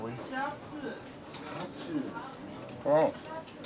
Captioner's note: men speaking Japanese